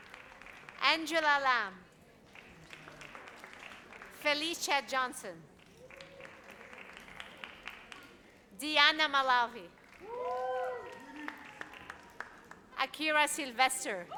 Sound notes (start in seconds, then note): 10.0 audience cheers